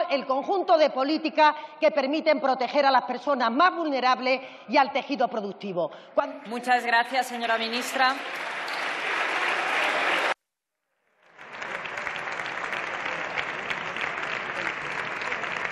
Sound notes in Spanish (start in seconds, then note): 5.7 Aplausos